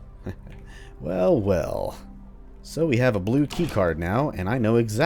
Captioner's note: chuckles